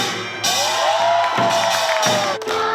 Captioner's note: people cheering, clapping